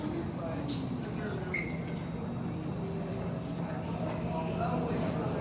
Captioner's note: people continue chattering